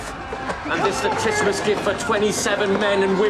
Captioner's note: shouting, screaming continuing